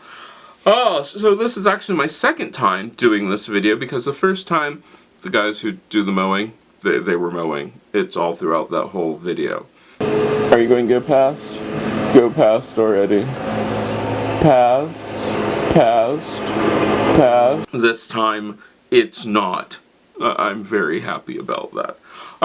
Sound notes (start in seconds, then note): 11.6 mowing sound; 13.5 mowing sound